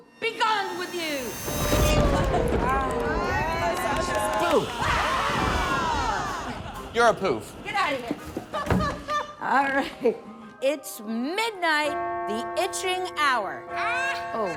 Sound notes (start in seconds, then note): 0.7 thunder blasting; 4.6 everyone screaming